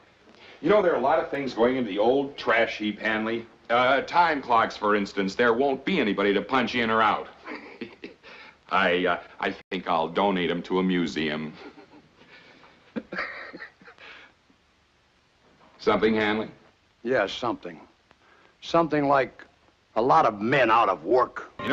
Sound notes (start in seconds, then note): 7.3 chuckling; 12.9 more chuckling